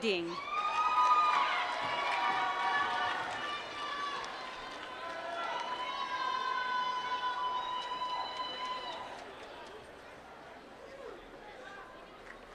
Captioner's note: applause